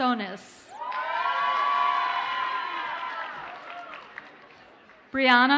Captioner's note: audience cheers and applauds